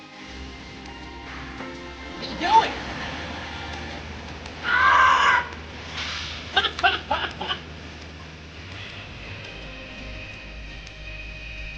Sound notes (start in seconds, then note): 4.6 screaming; 6.5 laughing